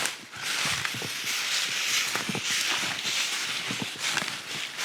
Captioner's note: leaves crunching